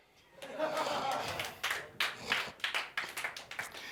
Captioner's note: clapping